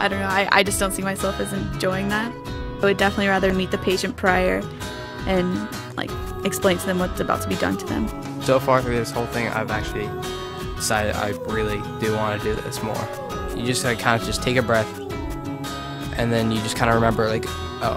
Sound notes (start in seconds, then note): 8.5 voiceover